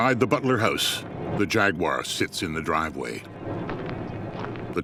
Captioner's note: footsteps crunching